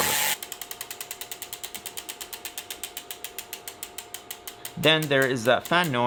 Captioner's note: freehub spinning slowly